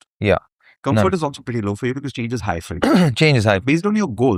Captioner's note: clears throat